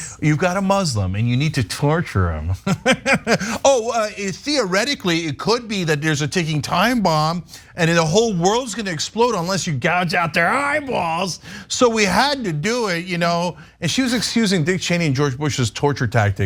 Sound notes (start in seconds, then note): 2.6 laugh